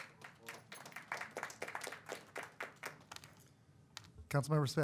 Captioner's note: applause